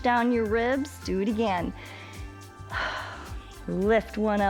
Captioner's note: inhales and exhales